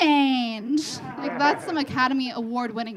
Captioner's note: audience laughing